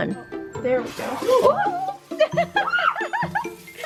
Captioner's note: shrieking; mom laughing